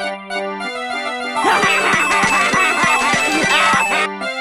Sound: laughing + Coin Sounds

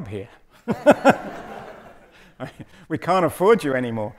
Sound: audience laughing

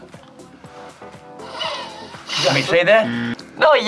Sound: inhales; buzzer rings

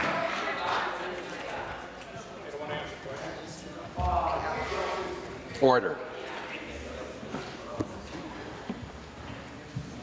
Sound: applause

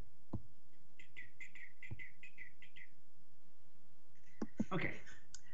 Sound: whistling

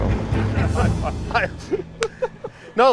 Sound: both laughing

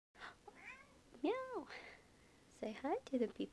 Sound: meow; gasp

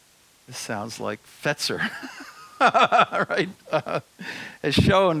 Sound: laughs

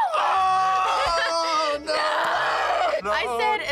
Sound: both holler

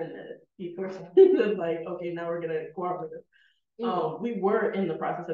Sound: laughing

